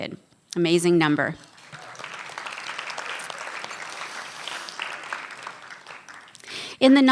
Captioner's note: applause